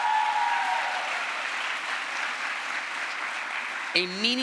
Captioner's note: crowd applause